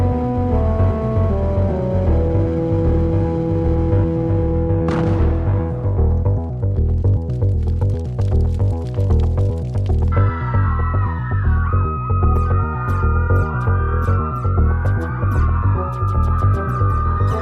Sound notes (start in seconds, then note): 4.8 crash; 10.2 screaming and weapons fire